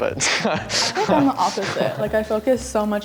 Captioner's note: chuckle